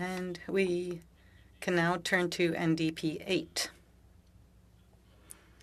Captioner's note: speaking French